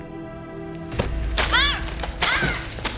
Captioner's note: Alejandra shouts